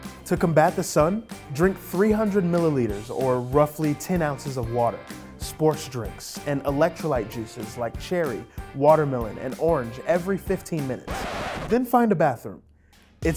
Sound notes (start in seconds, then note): 10.8 record scratches